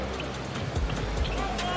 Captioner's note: rim rattle